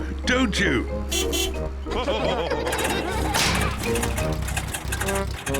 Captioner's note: all laugh; engine sputters